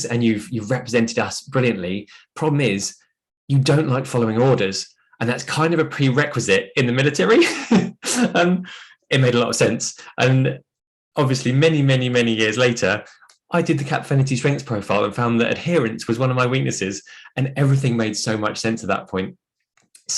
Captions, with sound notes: and you've represented us brilliantly. Problem is you don't like following orders, and that's kind of a prerequisite in the military." (laughs) It made a lot of sense. And obviously many, many, many years later I did the Cappfinity Strengths Profile, and found that adherence was one of my weaknesses, and everything made so much sense at that point.